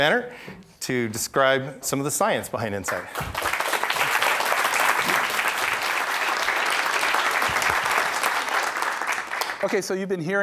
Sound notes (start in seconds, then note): 2.9 audience applauding